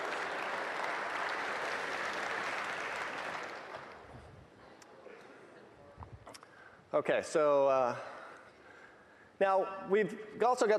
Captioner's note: applause